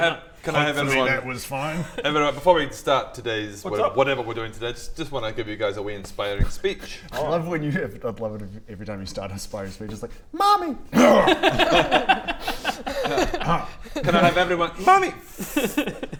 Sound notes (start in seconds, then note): 10.9 ahem; 10.9 unsympathetic laughter